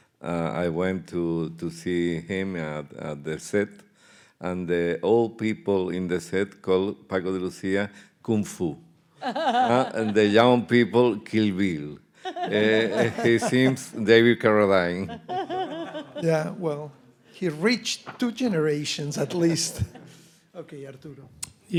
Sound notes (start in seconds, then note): 9.2 laughing; 12.2 all laughing; 15.1 laughing